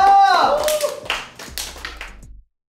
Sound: big round of applause

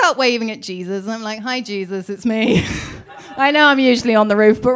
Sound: laughs

